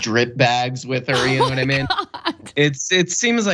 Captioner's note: laugh